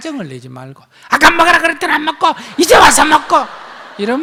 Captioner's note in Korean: 청중 웃음